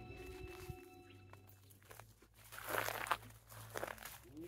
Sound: footsteps in grass

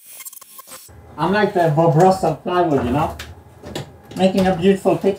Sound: drill buzzing

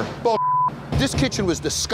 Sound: beep

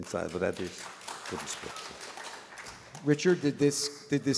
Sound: applause

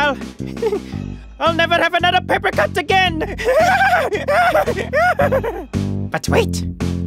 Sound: stifled laughter; evil laughter

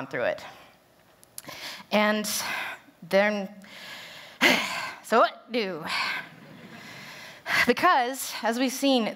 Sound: sigh

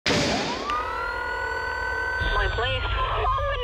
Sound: sirens wailing

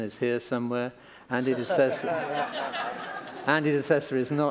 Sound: laughter

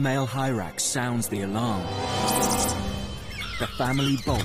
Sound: hyrax squeaks

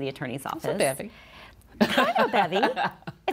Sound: chuckles

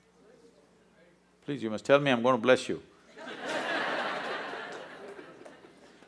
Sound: laughter

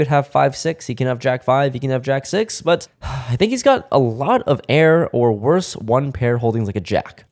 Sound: sigh

